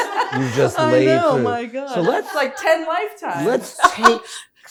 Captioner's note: all laughing